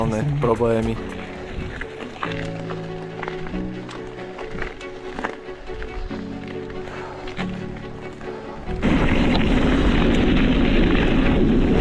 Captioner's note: bike rolling